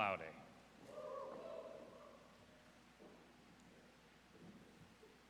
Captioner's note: audience cheers